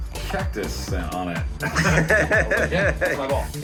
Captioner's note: laughing